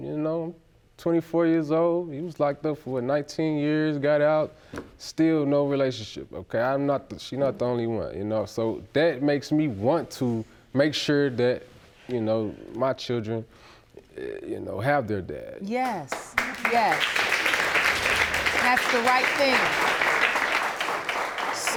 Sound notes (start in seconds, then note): 16.1 crowd applauding